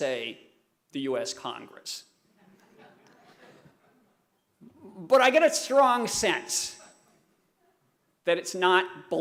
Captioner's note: laughter